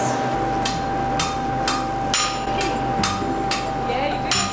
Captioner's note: steel clanging